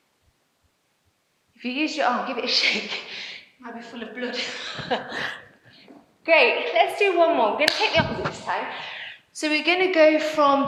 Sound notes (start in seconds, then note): 4.4 laughs